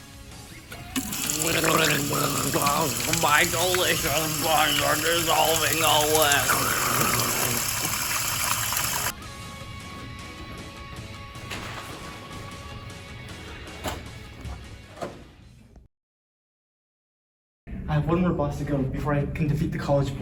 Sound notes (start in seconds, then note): 0.7 not so epic gurgling sounds